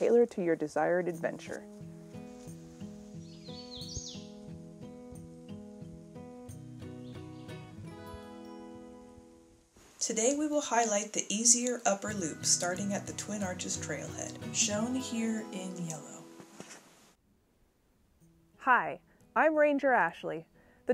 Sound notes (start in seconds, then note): 3.2 birds chirping